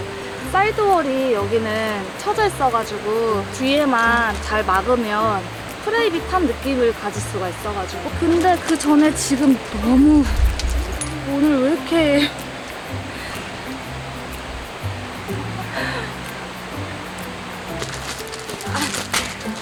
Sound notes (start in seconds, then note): 13.6 sighs; 15.4 laughs...?